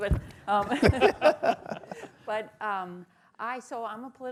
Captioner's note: laughter